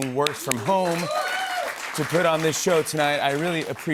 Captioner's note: cheers and applause